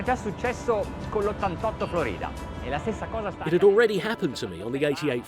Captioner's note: speaking in foreign language